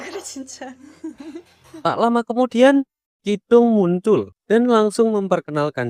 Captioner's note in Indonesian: tertawa